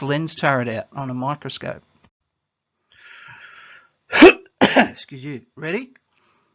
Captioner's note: COUGHS - excuse you